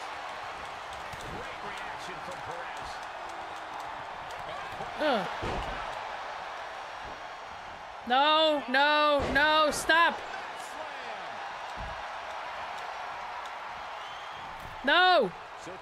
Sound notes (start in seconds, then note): 3.8 applause; 11.9 applause